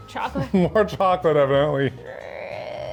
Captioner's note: laughs